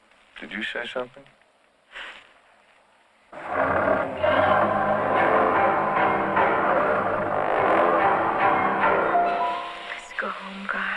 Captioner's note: snorts